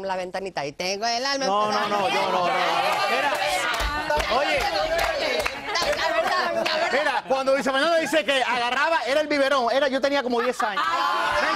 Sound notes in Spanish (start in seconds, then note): 10.2 risas